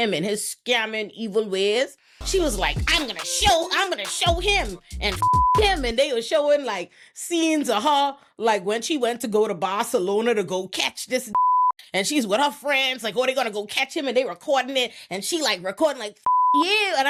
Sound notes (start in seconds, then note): 5.2 beep; 11.3 beep